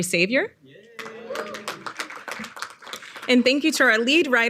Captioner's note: audience applauding